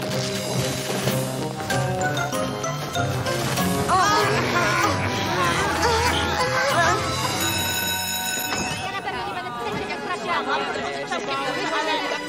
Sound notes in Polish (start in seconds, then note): 3.8 jęczą; 7.2 dzwonek szkolny; 8.6 rozmowy uczniów